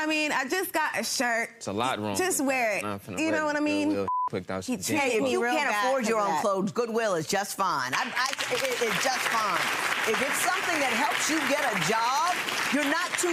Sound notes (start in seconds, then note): 4.0 beep; 7.9 audience clapping